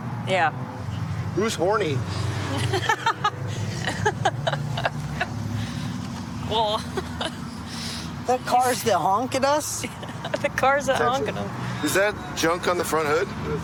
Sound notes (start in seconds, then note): 2.4 laughing